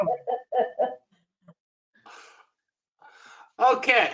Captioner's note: laughter